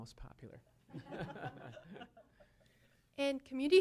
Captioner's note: laughter